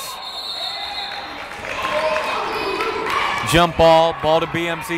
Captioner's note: whistle blowing